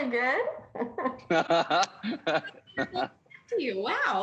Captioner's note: laughter